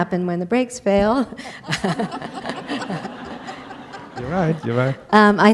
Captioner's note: laughter